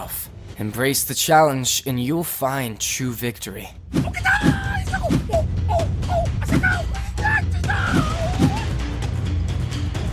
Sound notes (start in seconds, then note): 3.9 dramatic music; 4.2 fighters whooping